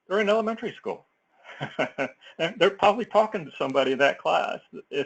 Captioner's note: laugh